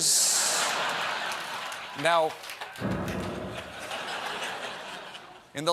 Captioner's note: laughter